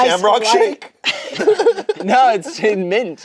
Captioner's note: laughs